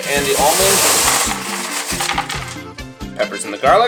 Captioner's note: foil rattles